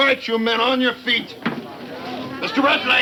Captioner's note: people chattering